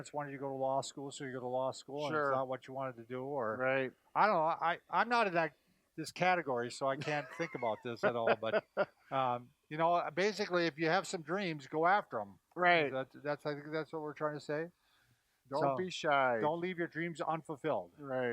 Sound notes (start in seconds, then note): 6.9 laughing